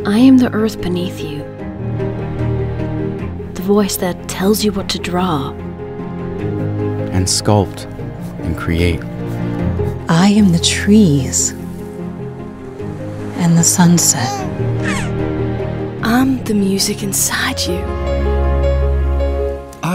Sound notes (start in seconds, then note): 13.9 baby gurgling